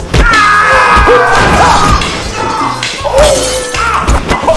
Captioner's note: punches